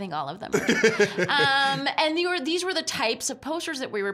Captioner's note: laughing